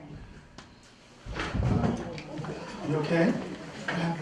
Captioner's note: thud; surprised murmurings